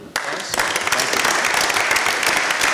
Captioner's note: applause from audience